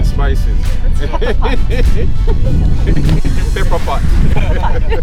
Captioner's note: laughs